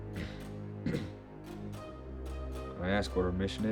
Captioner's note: Milton clears throat